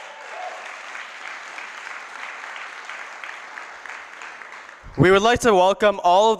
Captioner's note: applause